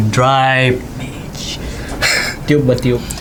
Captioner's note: whispers